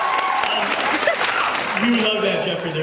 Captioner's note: cheers